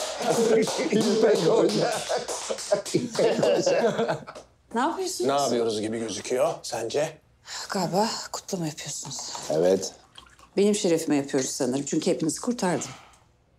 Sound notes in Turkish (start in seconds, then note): 0.7 Hep bir ağızdan